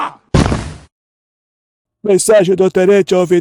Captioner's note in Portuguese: grito